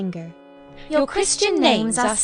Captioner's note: speaking together